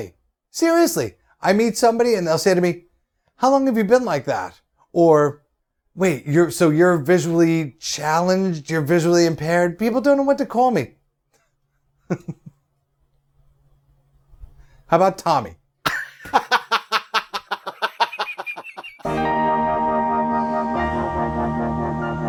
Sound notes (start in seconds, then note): 12.0 chuckles; 16.0 laughs